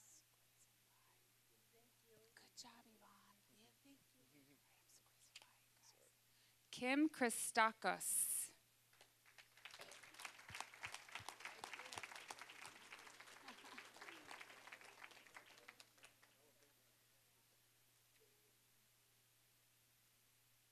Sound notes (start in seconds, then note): 8.9 applause